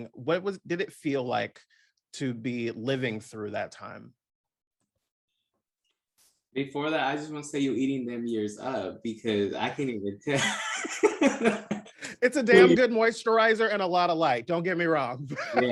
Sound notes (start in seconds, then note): 10.2 laugh